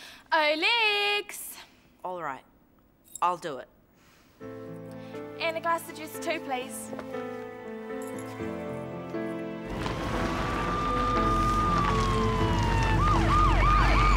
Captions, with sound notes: - Oh Lex! - All right, I'll do it. - And a glass of juice too, please. (emotional music) (sirens wail)